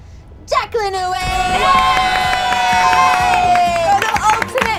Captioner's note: group cheers